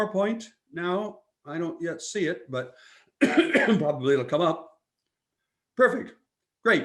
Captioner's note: coughs